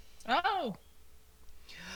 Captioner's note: Savitar gasps softly